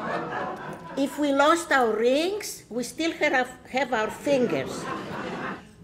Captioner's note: laughter